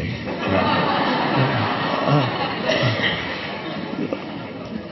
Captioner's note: audience laughing